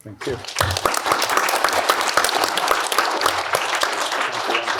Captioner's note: applause